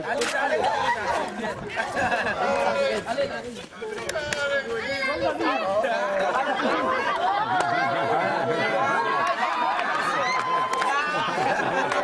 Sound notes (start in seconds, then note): 0.6 laughter